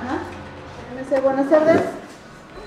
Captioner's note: saleswoman in Spanish